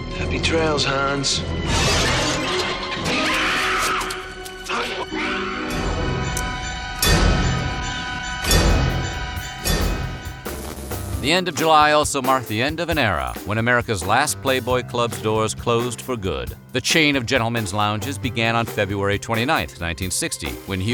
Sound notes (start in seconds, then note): 2.9 screaming